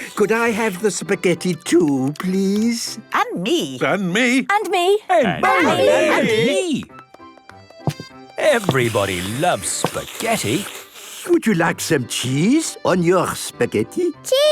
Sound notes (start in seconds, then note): 3.3 calling out in turn